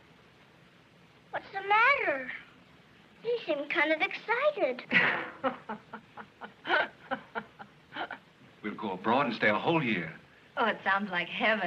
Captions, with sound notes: What's the matter? They seem kind of excited. [chuckling] We'll go abroad and stay a whole year. Oh, it sounds like heaven.